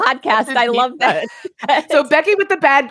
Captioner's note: laughs